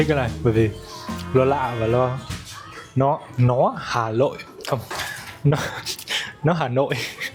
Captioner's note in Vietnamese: tiếng cười